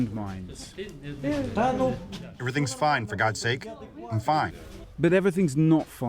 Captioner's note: through translator